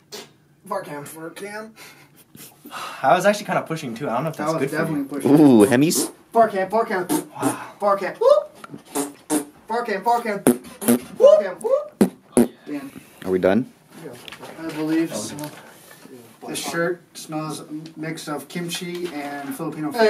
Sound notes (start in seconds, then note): 8.8 fart noises